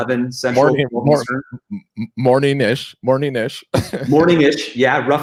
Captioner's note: laughs